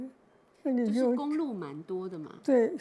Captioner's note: Mandarin